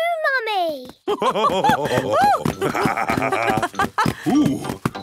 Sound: both laugh

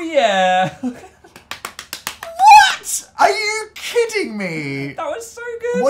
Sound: laughs

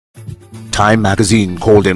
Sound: radio Announcer

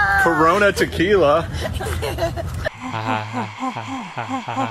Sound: laughs

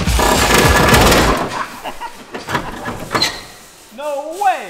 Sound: laughs

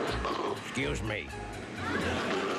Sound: burps

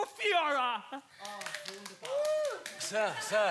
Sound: clapping

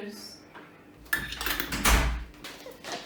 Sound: the door closes

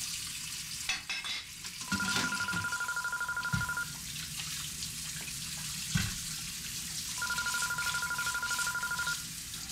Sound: telephone rings

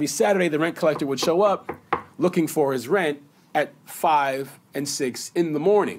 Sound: knocks

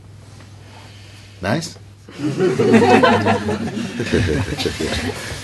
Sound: laughter

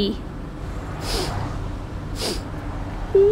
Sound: sniff! Sniff!

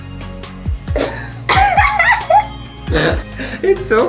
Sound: laughing

